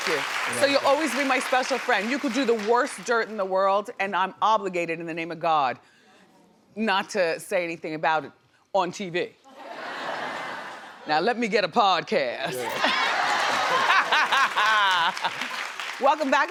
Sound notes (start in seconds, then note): 12.5 audience laughing; 13.3 Wendy laughing